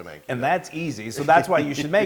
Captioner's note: laugh